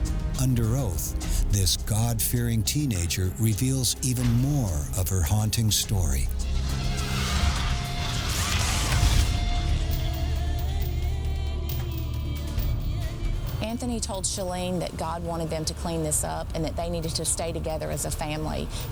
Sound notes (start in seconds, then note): 6.5 tense music; 6.6 muffled screaming; 9.8 ominous music